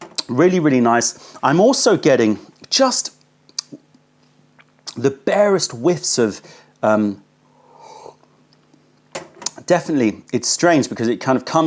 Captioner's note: sips tea